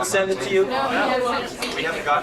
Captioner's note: group chattering